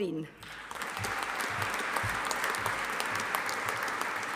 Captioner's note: audience applauding